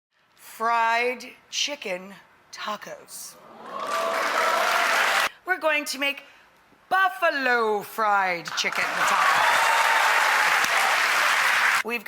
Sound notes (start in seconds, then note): 3.5 audience cheers; 8.4 audience claps